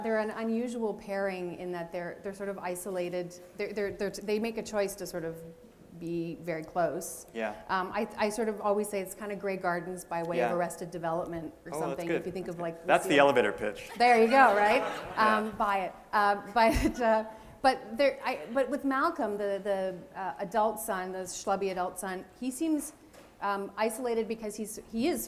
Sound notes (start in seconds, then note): 13.9 laughter